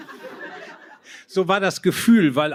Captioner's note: laughter